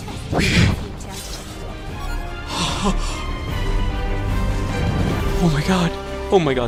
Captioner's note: heavy Breathing